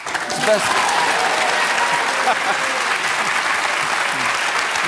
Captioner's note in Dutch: applaus